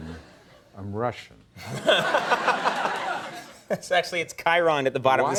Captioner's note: audience laughter